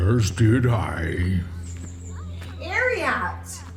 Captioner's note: happily